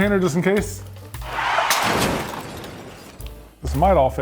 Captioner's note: cars crashing